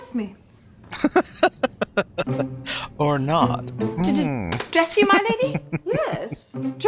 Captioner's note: laughing